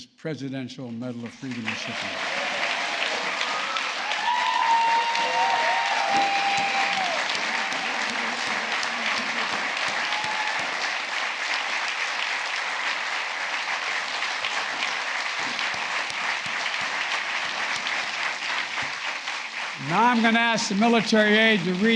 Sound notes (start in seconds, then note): 3.5 applause